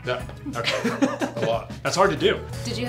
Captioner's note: laughs